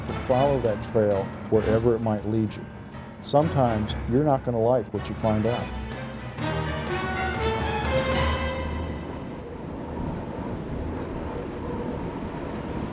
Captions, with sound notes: and you have to follow that trail wherever it might lead you. Sometimes, you're not gonna like what you find out. (dramatic music) (wind rushing)